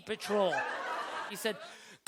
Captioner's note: audience laughter